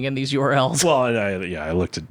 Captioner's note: laughs